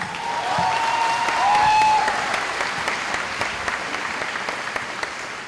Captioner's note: cheering